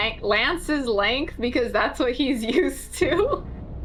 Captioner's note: laughs